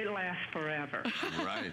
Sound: laughter

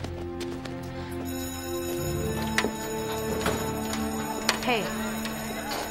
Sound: bell ringing

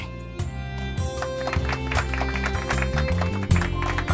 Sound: applause

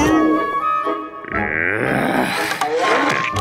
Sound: groaning

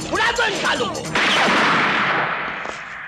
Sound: gunshot

